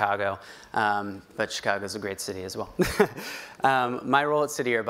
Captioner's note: laughs